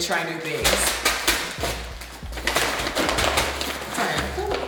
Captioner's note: ingredient crunching